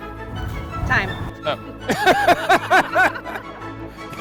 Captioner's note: all laugh